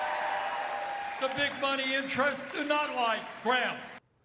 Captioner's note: cheers and applause